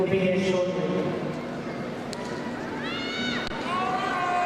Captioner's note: crowd cheering